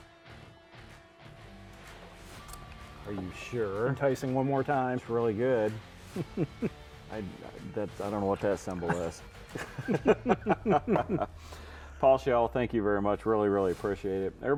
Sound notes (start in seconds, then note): 8.6 both chuckling